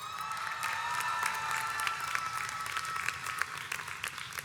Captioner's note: audience cheers